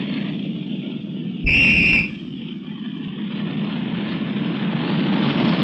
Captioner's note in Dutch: fluitje blazen